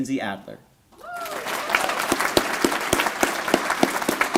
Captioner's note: applause